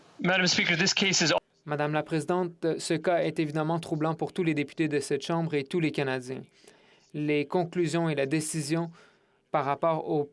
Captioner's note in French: voix de l'interprète